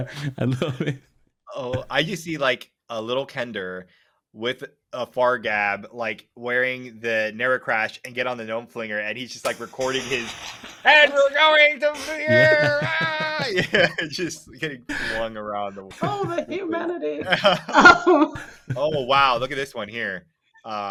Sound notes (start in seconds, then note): 11.8 laughing; 11.9 muttering